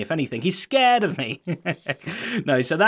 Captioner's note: chuckles